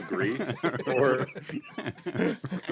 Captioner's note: laughing